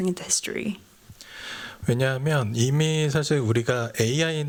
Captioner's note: speaking japanese